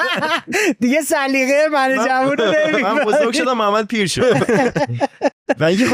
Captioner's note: laughs; laughs